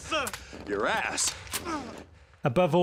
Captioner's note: grunting